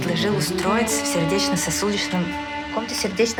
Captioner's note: drunken and slurred